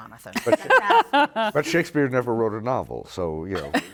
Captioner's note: laughter